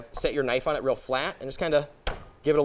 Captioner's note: pounding